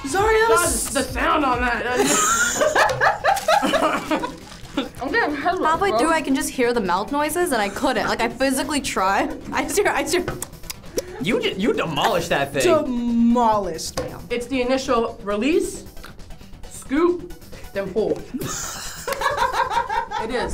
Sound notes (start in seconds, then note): 1.9 laughs; 3.8 coughs; 10.4 imitates chewing sounds; 18.4 laughs